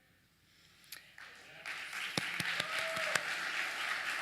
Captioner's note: applause